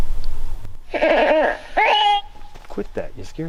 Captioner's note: baby crying